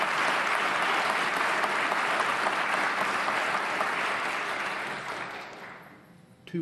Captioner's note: applause